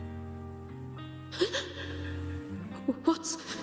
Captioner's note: guitar music; gasping